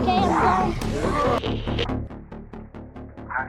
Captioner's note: static stops